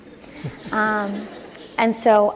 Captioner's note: laughter